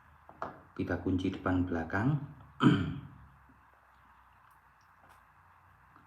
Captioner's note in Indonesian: berdehem